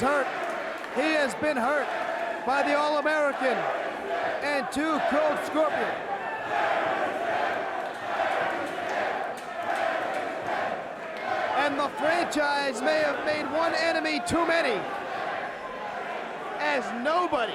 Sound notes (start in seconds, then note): 7.7 crowd cheering